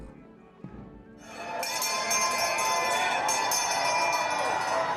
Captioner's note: bell ringing